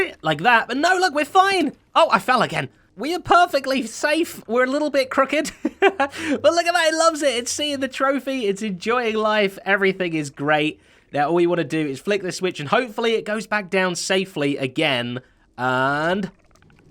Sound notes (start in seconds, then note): 5.4 chuckles